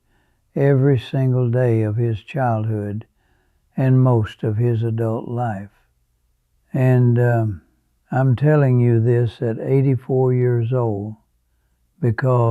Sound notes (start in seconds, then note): 5.5 pause